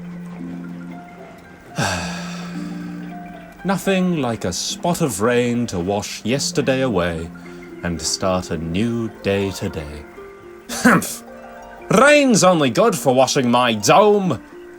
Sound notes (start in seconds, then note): 1.7 happy sigh